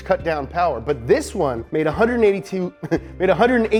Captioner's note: laughs